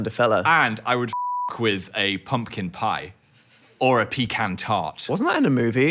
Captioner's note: beep